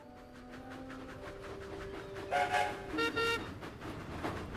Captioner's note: peter sam and skarloey whistle